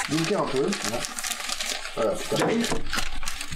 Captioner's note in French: Bruit de papier journal